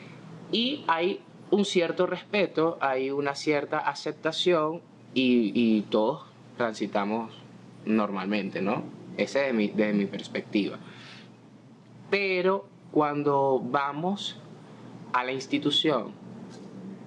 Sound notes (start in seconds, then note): none